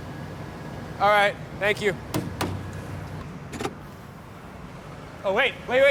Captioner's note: tapping on vehicle